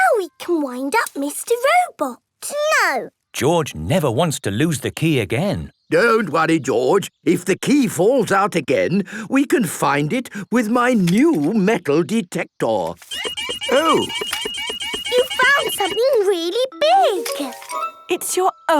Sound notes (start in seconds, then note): 13.0 beeping